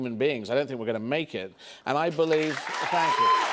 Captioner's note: cheers and applause